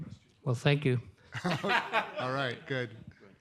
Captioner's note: audience laughs